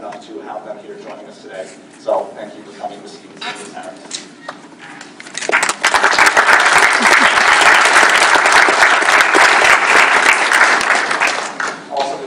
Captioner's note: applause